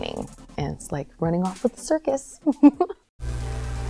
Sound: giggles

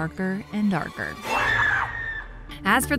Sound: loud screaming

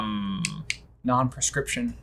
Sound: groaning

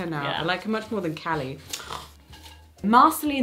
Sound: she scoffs

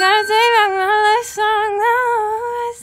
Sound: ding

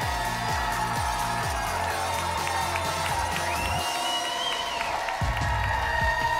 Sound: applause and cheering cont

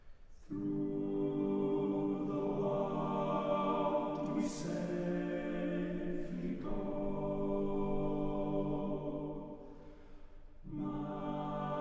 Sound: lower Voices

